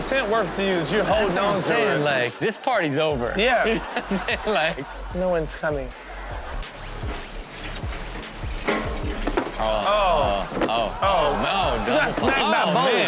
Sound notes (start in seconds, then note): 3.7 audience laughs; 9.4 audience groans